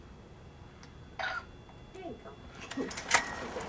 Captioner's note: click of camera